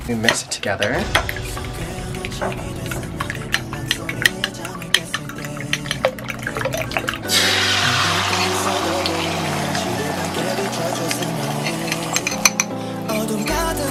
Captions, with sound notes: We mix it together. (Korean pop music) (pan sizzles) (Korean pop music)